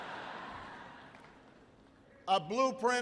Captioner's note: laughter